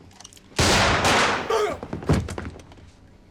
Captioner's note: gunshots; groans